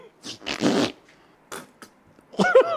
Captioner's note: laughs and imitates the bottle; Bottle farts again; laughs